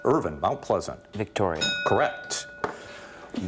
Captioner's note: ding